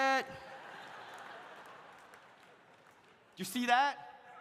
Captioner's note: audience laughs